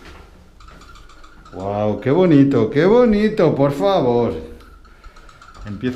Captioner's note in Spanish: sarcastico